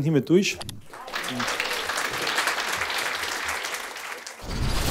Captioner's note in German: Applaus